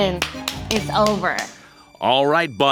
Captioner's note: hands clapping